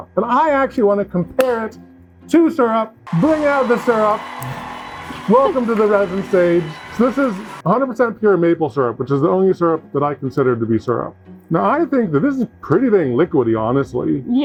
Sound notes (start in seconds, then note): 3.0 audience cheering